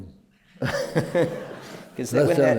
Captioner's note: laughter